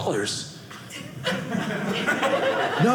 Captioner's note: audience laughing